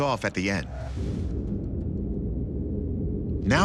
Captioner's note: whirring